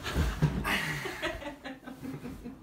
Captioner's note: laughing